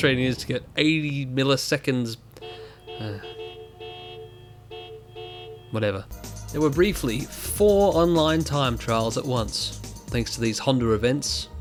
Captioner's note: sigh